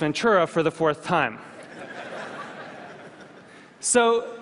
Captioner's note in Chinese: 笑聲